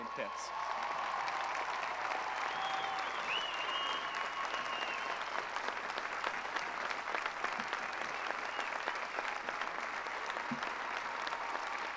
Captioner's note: applause